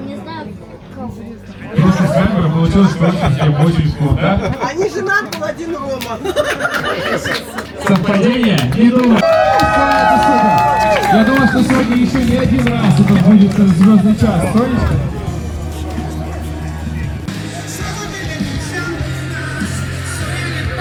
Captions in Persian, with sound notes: не знаю просто свабора получилось всем очень крута они женат был один Рома [خنده] совпадение не думай [صدای تشویق] это суда я думаю что сегодня ещё не один раз это сбудется звёздный час